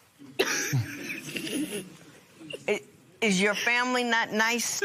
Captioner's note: laughs